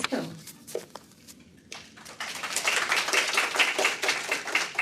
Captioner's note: applause